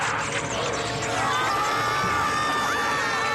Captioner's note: all screaming